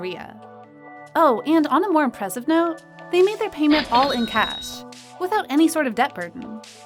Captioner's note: cash register sound